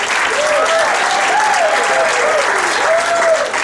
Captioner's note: audience cheering and applauding